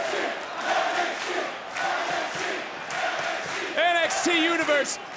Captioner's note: crowd chants "NXT"